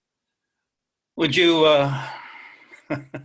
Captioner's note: laughs